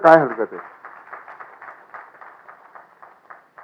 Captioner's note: applause